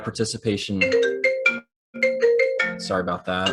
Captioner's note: phone ringing